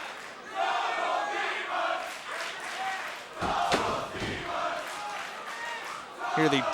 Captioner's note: crowd cheering